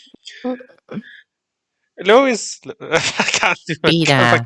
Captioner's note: failing miserably at a Peter Griffin impression